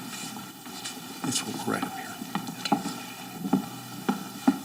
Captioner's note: speaks faintly; footsteps thudding